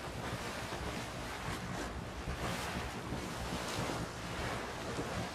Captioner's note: water erupting